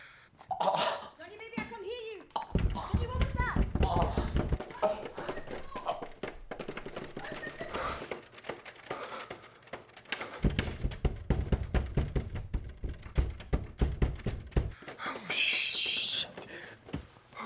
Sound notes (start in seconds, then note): 2.4 banging on the door